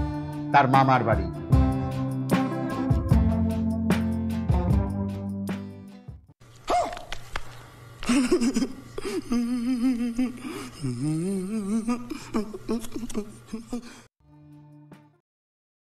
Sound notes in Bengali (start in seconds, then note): 8.1 সশব্দ হাসি